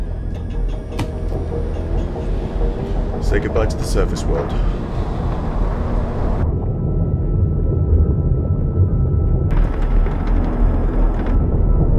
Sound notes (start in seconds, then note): 0.1 submersible rumbling; 0.1 suspenseful music; 6.3 soft celestial music; 6.3 submersible droning